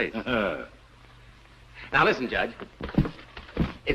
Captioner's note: knocking